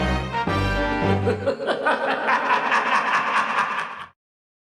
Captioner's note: Palpatine laughs